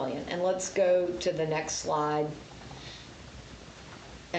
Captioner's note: none